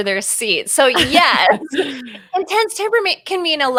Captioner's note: laughing